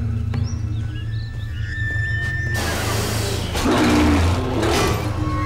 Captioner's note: machinery creaking